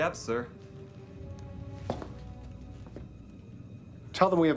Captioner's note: footstep